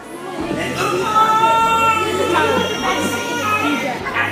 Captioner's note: screams